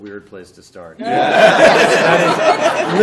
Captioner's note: laughter